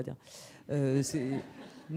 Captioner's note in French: rires